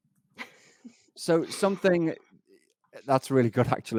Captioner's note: laughs